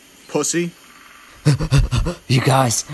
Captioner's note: heavy breathing